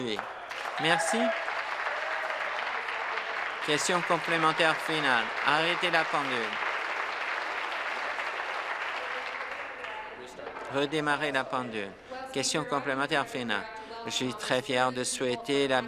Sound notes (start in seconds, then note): 3.3 applause